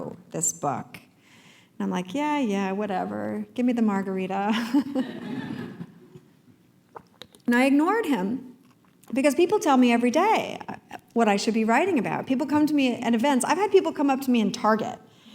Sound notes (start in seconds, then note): 4.8 laugh